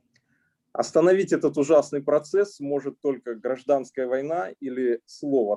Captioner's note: speaking Russian language